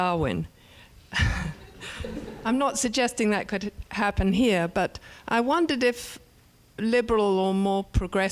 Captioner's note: laugh